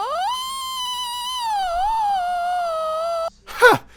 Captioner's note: Pink Trombone screams